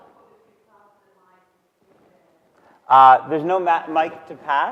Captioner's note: audience member speaking softly